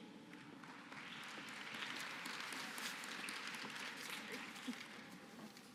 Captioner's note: applause